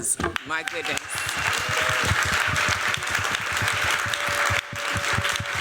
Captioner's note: applause, cheering